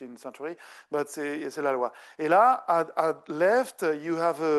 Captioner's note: speaking French